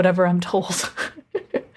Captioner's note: laugh